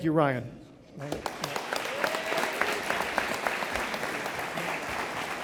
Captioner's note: audience applauding